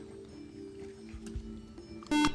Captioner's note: beeping